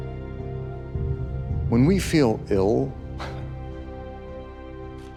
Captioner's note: scoffs